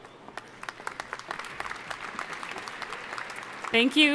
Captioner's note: audience applauding